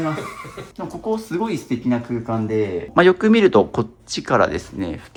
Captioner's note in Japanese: 笑い